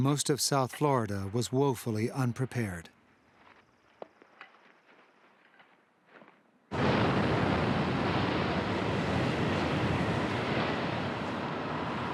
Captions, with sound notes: most of South Florida was woefully unprepared. (wind howling)